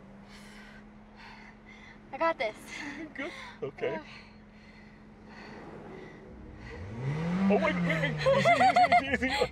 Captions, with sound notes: - I got this. - Good, okay. (engine revs loudly) Oh wait, wait, wait!